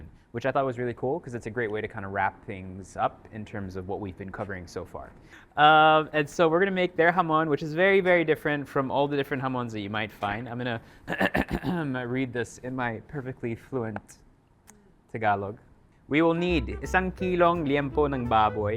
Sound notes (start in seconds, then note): 11.0 clears throat